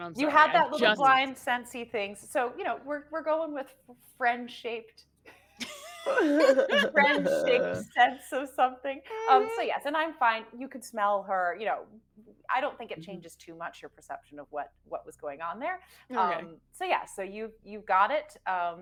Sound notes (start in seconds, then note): 5.6 group laughing